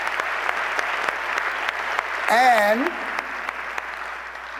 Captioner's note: applause